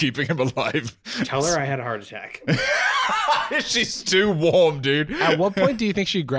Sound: laughing

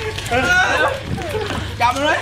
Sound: screams

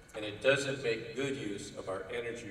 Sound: none

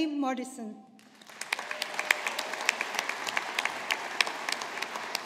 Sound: audience applauding

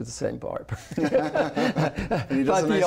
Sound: laughter

